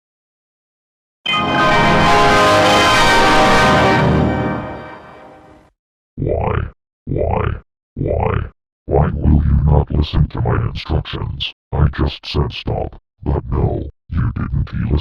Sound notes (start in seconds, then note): 1.2 Hell Windows XP Startup Sound